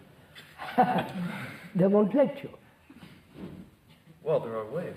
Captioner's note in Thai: หัวเราะ